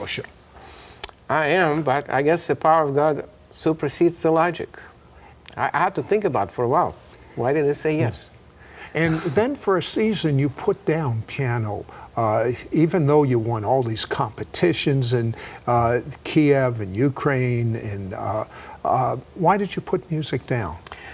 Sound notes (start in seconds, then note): 9.0 laughs